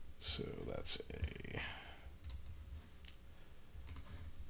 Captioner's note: clicking